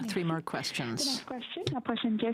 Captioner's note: speaking French